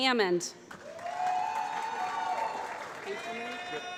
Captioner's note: applause